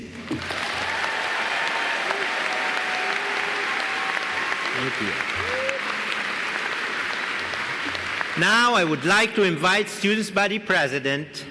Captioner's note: applause